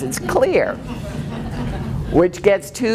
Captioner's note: laughing